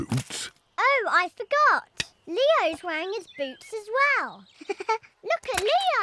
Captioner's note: giggles